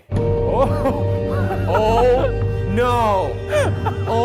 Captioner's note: laughing